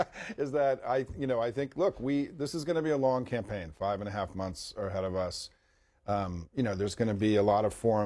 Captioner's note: laughter